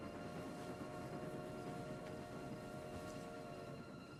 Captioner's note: train whistle blaring